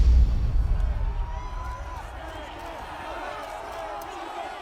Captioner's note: crowd screaming